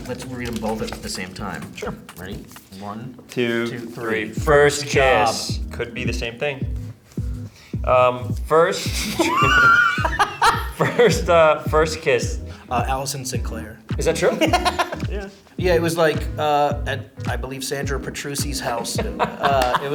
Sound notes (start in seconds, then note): 8.8 Bobby laughs; 14.1 laughs